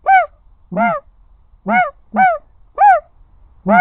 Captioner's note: making snow goose sounds